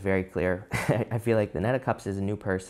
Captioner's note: laughs